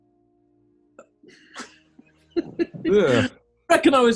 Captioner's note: giggling